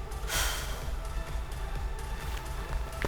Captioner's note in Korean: 한숨